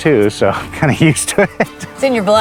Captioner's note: chuckles